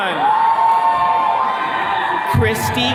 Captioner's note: attendees cheering